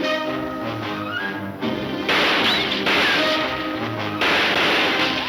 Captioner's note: gunshots banging